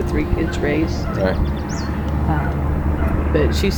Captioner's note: birds chirping